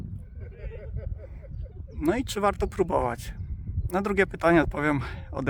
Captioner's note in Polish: śmiech